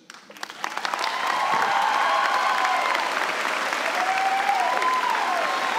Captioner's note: cheers and applause